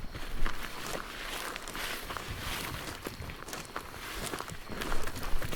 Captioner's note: footsteps crunching; grass rustling; insects chittering